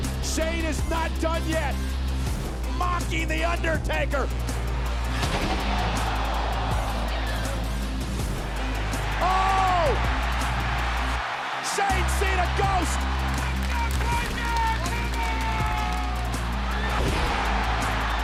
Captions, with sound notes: Shane is not done yet. Mocking the Undertaker. (crowd gasps) (audience cheers and applauds) Oh! Shane's seen a ghost! (audience cheers and applauds)